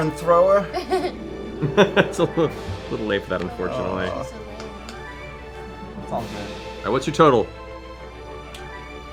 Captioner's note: laughs